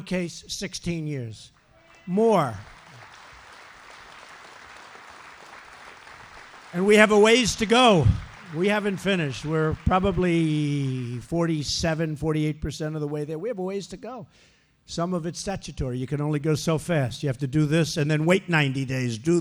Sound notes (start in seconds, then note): 1.5 applause